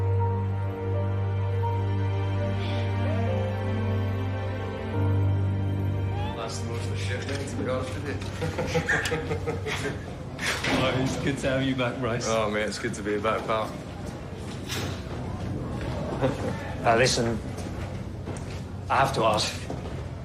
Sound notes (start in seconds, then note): 8.1 chatter, laughter